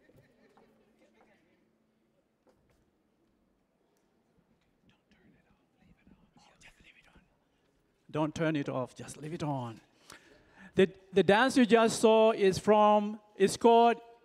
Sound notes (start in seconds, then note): 0.0 laughing; 5.4 whispering